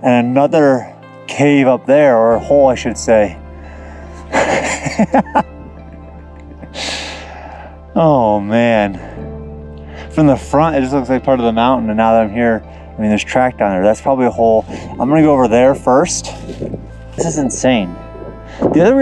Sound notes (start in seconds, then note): 4.2 laughing